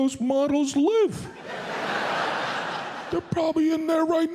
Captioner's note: audience laughs